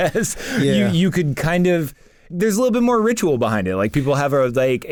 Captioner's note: laughs